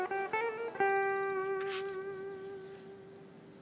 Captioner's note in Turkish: Kuş sesleri